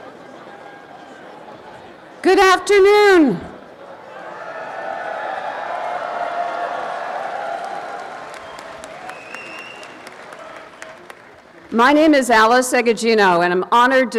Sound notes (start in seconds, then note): 4.1 applause and cheering